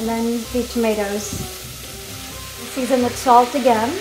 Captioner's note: mixture sizzling